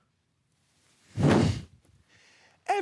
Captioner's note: rustling; whoosh; rustling